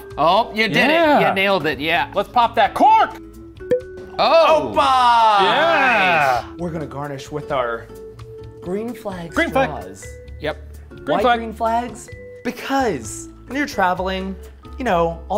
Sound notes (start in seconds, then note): 3.6 cork pops